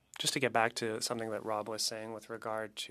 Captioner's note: speaking French